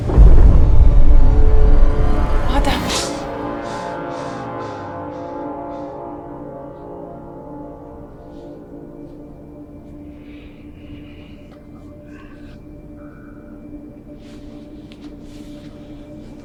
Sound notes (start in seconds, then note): 0.0 explosion; 5.3 gasps